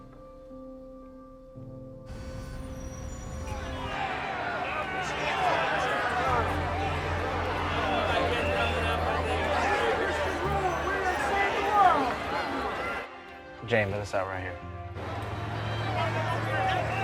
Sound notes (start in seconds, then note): 1.9 traffic noises; 3.0 protesters shouting